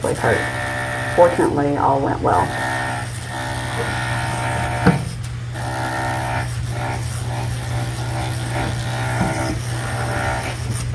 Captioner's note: jackhammering